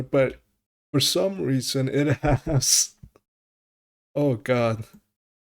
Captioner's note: laughs